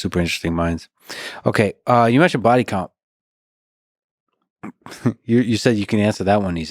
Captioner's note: chuckles